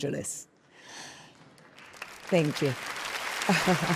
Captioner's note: audience applauding; Gal chuckles